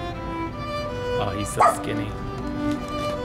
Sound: bark

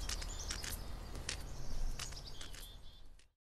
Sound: white cane tapping and moving away…

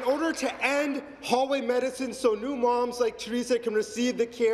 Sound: applause

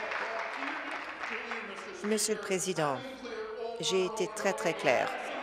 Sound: applause

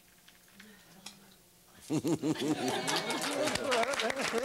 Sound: laughter; applause

